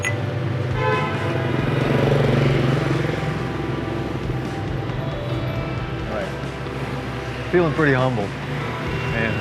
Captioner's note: bottles clinking